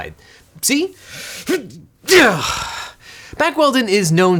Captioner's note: grunts